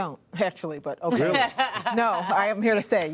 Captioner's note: laughter